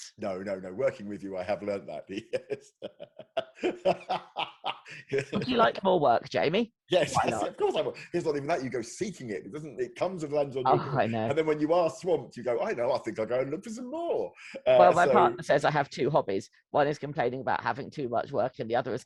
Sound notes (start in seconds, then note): 2.7 laughs